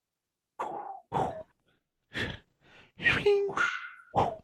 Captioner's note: weapons whooshing